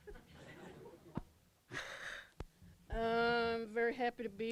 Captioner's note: laughter